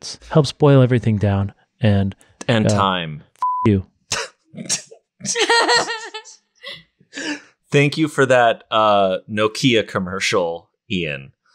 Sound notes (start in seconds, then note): 3.4 beep; 5.2 all laugh